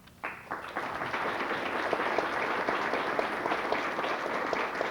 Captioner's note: applause